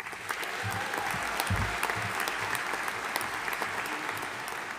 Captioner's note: audience applauding